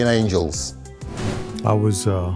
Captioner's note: air whooshing